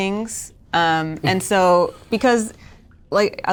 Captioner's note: chuckles